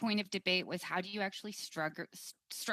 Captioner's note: speaking French